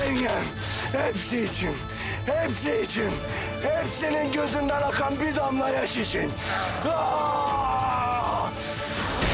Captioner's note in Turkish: Bağırıyor